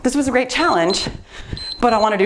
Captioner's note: timer beeps